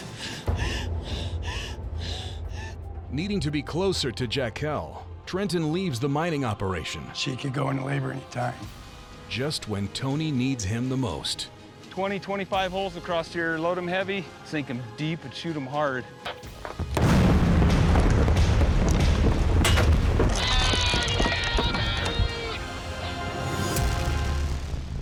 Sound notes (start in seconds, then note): 0.4 crying; 16.7 explosions; 21.5 shouting over walkie talkie